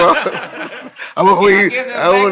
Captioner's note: group laughing